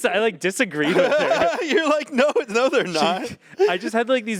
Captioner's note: laughs